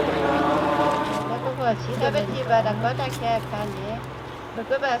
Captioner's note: foreign language